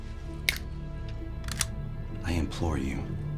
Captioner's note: finger snaps